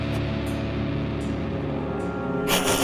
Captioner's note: laughs